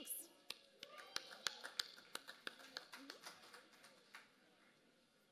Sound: applause

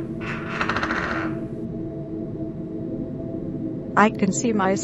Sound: door creaking

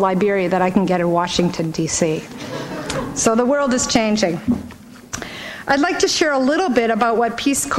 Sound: laughter

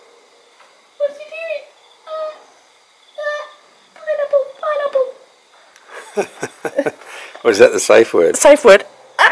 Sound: laughing

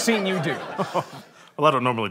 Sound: chuckles

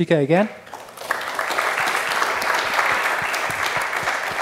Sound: applause

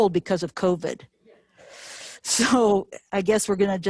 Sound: inhales sharply

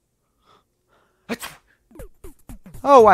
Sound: sneezes

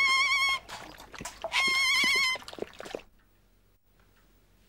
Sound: squawking

